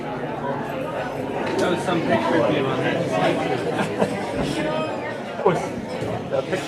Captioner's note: laughs